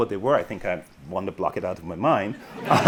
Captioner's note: audience laughing; chuckles